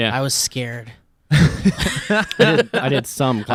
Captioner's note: laughs